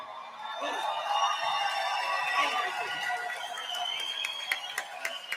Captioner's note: applause